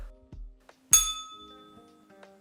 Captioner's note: bell rings